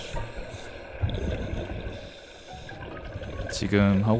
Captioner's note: finally, slowly breathing again